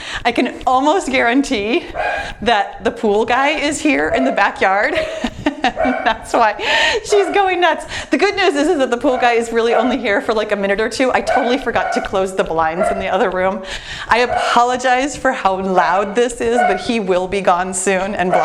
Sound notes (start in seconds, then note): 5.5 laughs